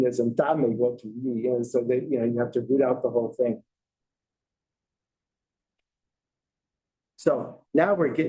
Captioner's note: non-english speech